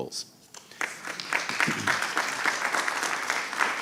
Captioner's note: applause